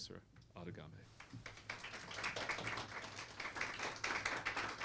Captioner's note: applause